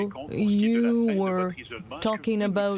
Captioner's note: speaking French